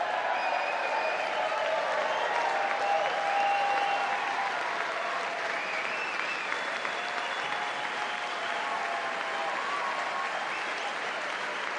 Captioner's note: applause